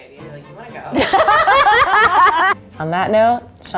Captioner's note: laughing